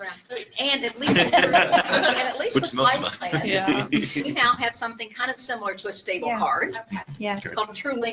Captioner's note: laughter